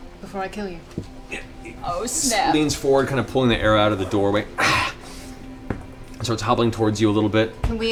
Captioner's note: groans in pain